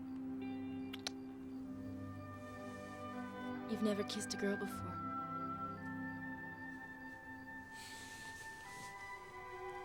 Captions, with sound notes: (lips smack) You've never kissed a girl before. (soft music)